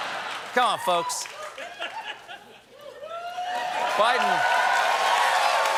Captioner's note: laughter; cheers and applause